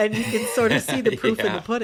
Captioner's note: laughter